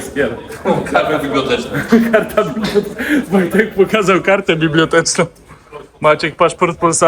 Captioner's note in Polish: śmiech